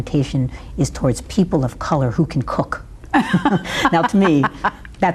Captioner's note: laughs